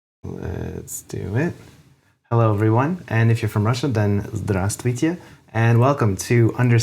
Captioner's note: russian Noises